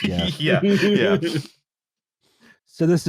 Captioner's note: laughter